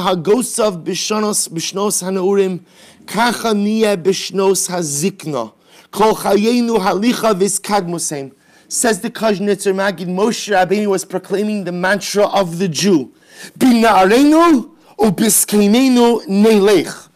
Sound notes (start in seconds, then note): 0.1 Hebrew; 15.6 Hebrew